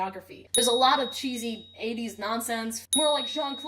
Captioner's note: ding; ding